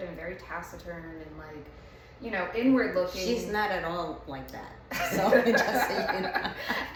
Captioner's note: laughs